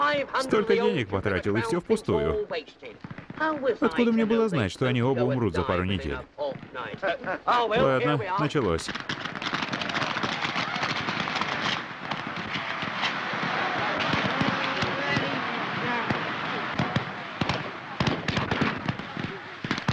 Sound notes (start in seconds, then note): 9.4 booming fireworks; 9.4 crowd shouting; 16.7 group chattering